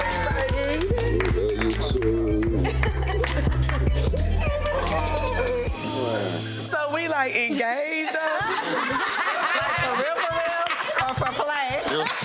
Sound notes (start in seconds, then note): 2.9 group giggling; 7.4 laughing